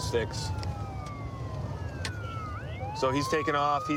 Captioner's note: sirens wailing